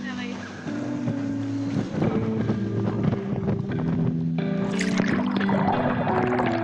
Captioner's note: gentle music; water sloshing